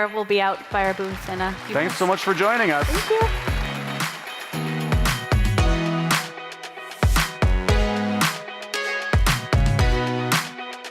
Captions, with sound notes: we'll be out by our booths in a few minutes. - Thanks so much for joining us. - Thank you. (audience applauds) (upbeat funky music)